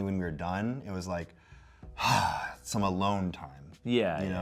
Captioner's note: sighs